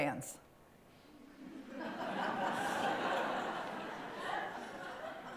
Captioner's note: laughter